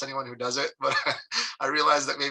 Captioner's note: chuckles